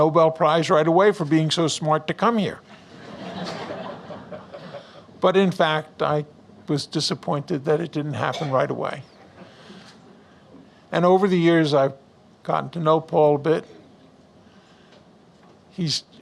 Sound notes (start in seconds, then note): 2.7 audience Laughs